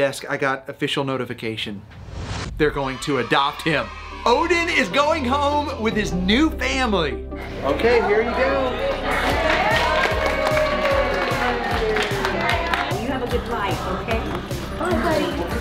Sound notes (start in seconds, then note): 8.8 everyone applauds